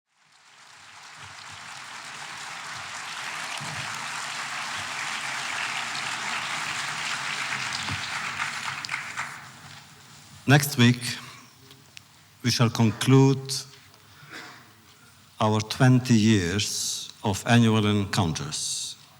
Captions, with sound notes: (audience applause) Next week, we shall conclude our 20 years of annual encounters.